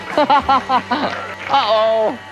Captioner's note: host laughing